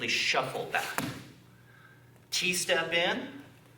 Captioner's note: soft thumping